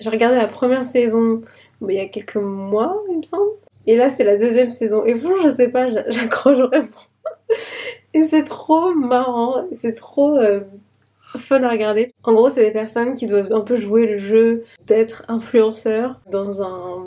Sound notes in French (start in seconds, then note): 6.9 rires